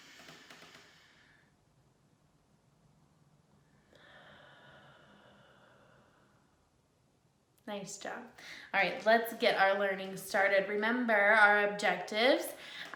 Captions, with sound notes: (deep inhaling) (deep exhaling) Nice job. All right, let's get our learning started. Remember our objectives.